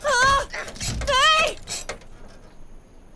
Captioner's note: huagh; repetitive / agressive grunting; aah